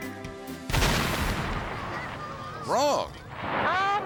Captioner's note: dynamite explodes